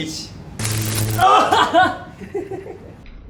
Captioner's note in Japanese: 電流の効果音